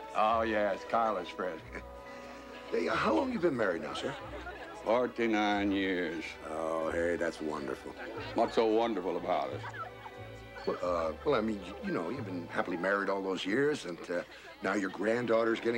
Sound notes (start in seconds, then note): 1.5 chuckles